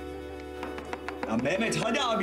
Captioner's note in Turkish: Kapı Çalıyor